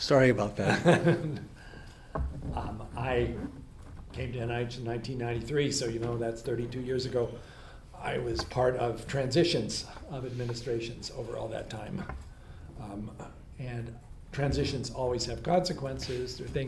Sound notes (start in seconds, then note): 0.6 laughs